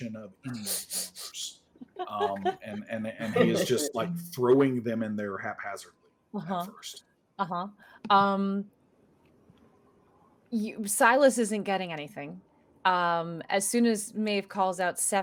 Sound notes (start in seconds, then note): 1.8 laughing